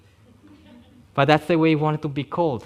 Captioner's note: audience laughing